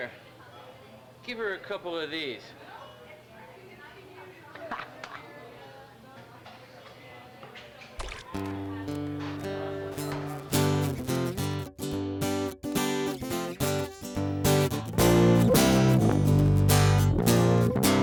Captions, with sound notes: - Here, give her a couple of these. (laughs) (coffee splashes) (stressful guitar music)